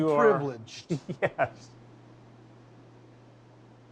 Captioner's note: chuckles